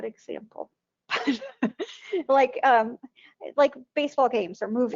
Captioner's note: laughing